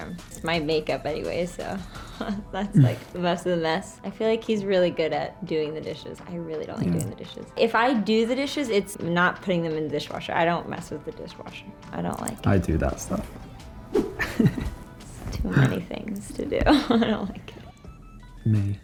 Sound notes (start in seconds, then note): 14.0 chuckles; 16.3 laughs